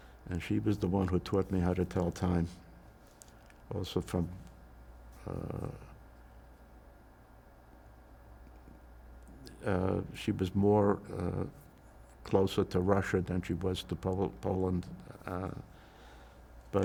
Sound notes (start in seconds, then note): 4.7 pauses 6 seconds